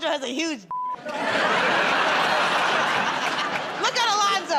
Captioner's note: laughter